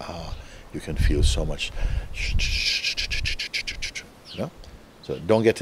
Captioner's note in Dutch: imiteert babbelende mind